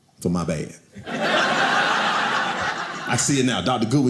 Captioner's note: audience laughing